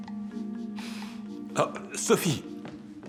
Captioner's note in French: soupirs